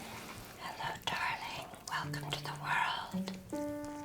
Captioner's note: whispering